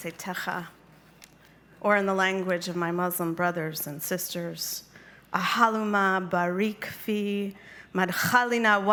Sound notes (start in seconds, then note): 5.5 speaking Arabic